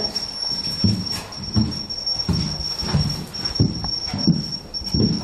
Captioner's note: high-pitched tone beeping